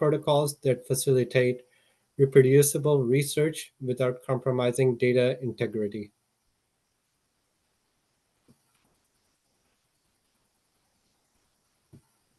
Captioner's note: pause